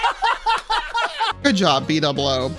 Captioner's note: laughs